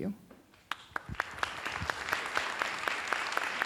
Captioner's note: applauds